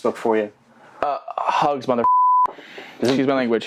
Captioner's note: beep